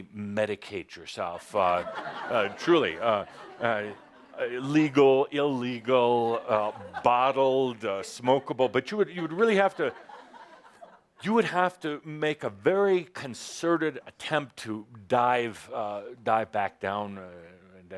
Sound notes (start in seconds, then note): 1.5 laughter